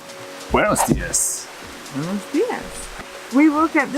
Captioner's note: speaking in foreign language